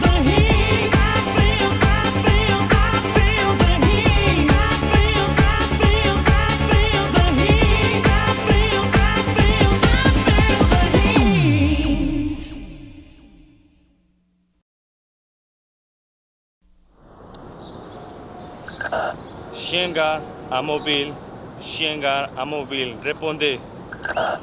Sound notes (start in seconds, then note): 18.8 radio static; 19.2 man speaking French